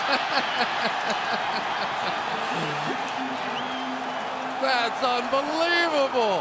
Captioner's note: laughing